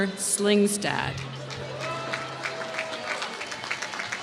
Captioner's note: applause